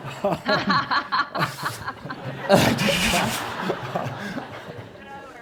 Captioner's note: laughter